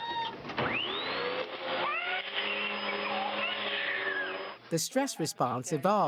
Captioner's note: baby screams and cries; vacuum cleaner starts; baby cries